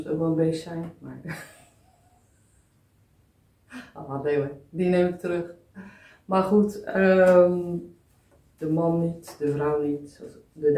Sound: laughs

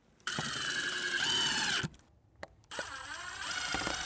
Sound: drill whirs

